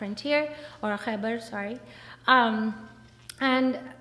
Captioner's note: speaks foreign language